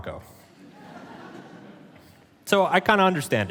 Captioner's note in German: Publikum lacht